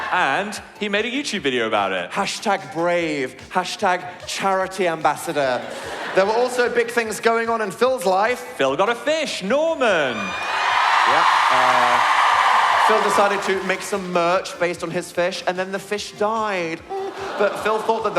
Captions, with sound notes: and he made a YouTube video about it. - Hashtag brave. Hashtag Charity ambassador. There were also big things going on in Phil's life. Phil got a fish. Norman. Yeah. *audience cheer* Phil decided to make some merch based on his fish, and then the fish died.